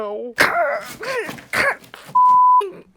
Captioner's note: shrieking in pain